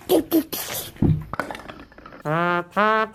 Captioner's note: baby babbling; skull decoration jostling